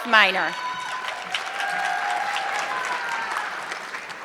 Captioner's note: audience clapping